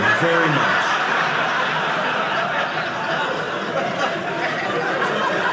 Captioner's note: audience laughing